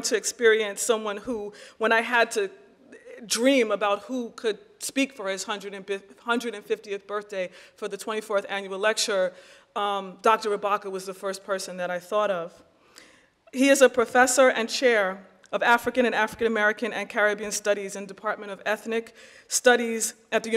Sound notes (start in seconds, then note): none